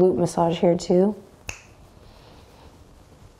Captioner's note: snaps